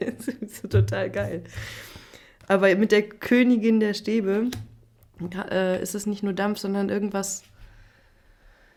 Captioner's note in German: gelächter